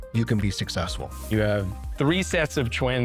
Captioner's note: air swooshing